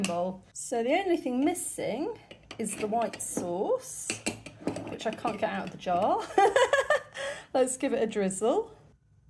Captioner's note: laughing